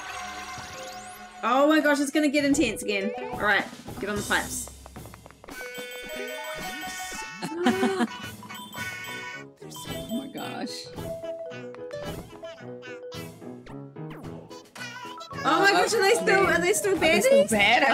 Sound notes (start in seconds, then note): 7.6 start singing; 8.9 gasps; 8.9 laughs